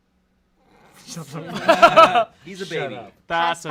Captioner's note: everyone laughs